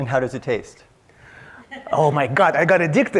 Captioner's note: audience member laughs